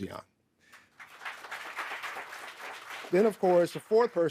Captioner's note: audience applauding